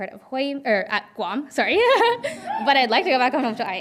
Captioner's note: laughing